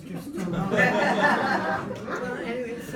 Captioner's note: group laughs